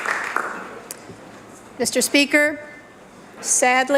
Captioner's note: applause